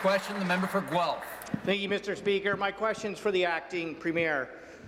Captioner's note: some Applause